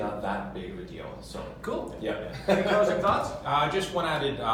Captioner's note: laughs